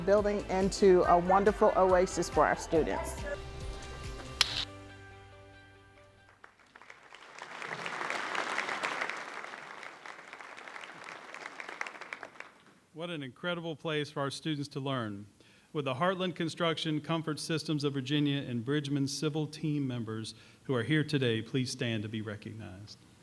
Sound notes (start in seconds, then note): 4.3 high five clap; 6.2 applause